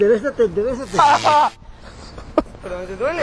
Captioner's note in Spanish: Gritos